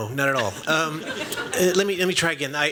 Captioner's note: laughter